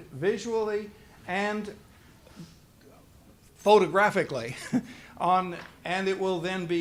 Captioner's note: laughs